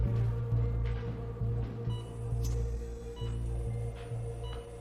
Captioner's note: heart rate monitor beeping